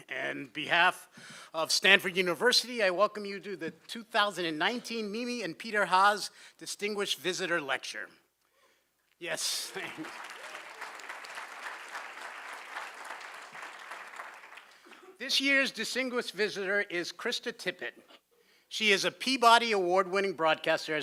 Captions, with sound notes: And on behalf of Stanford University, I welcome you to the 2019 Mimi and Peter Haas distinguished visitor lecture. [CHEERING] Yes. [APPLAUSE] This year's distinguished visitor is Krista Tippett. She is a Peabody Award winning broadcaster,